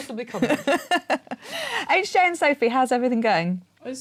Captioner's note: laughing